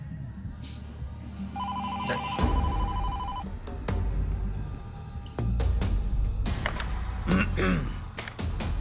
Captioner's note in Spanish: Suena el teléfono